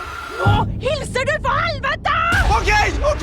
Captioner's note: in foreign language